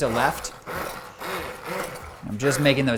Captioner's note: blender whirring